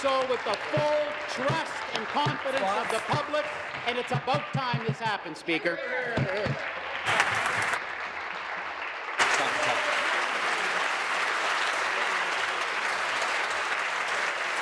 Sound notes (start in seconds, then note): 2.0 some Applause; 13.3 some Applause